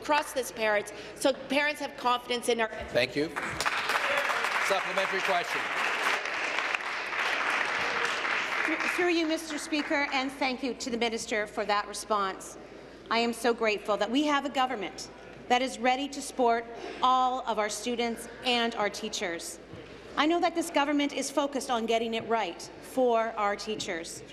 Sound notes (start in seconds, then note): 7.1 applause